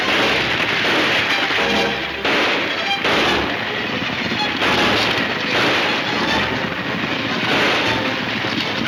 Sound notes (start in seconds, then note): 2.6 gunshots banging